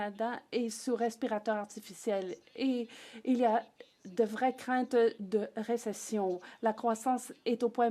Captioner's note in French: voix de l'interprète